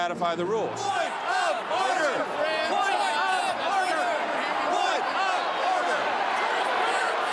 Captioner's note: crowd shouting - ‘Point of Order!